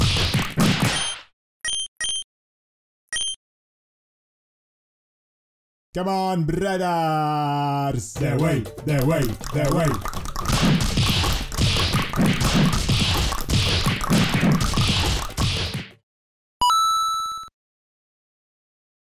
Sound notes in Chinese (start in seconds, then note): 5.5 召喚bgm再次響起; 13.2 大量彈舌